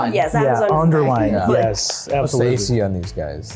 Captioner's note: everyone chattering